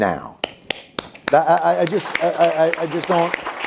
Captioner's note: applause